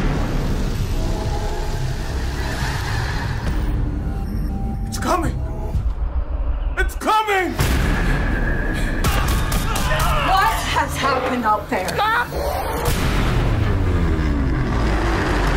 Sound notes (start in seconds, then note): 0.1 intense music; 9.6 screams